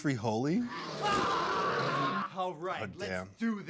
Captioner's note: dinosaur roars; screams